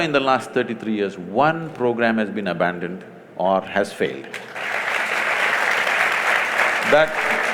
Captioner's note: applause